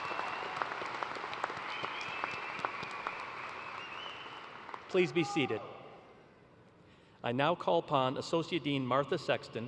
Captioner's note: cheers and applause